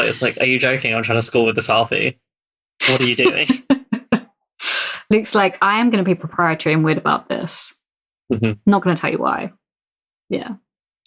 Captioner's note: laughs